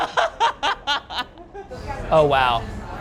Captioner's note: laughs